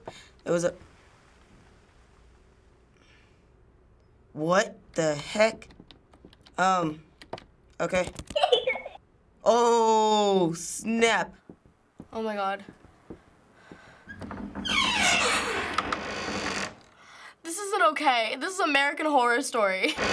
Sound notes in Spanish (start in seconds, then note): 8.4 Niña se ríe; 14.0 Puerta cruje en voz alta; 20.0 Puerta cruje en voz alta